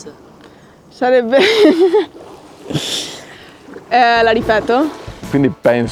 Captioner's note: laughs